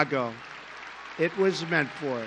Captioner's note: applause